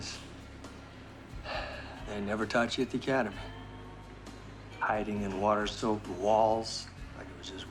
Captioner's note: sighs